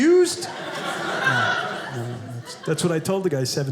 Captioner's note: audience laughing